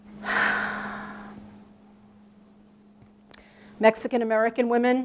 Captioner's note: forceful sigh